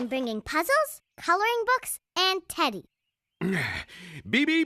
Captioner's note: clears Throat